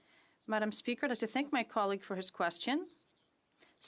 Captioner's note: speaking French